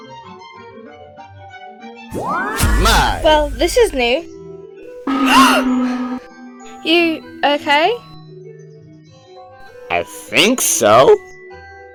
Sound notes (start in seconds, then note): 2.1 mystical sound; 5.1 gasps